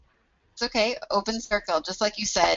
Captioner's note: voiceover